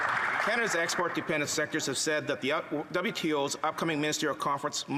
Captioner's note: applause